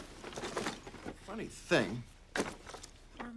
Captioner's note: none